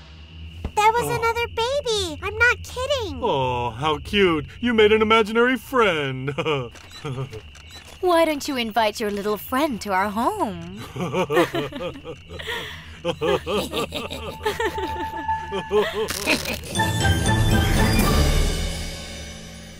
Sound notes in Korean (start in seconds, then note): 10.7 웃음; 13.6 사악한 웃음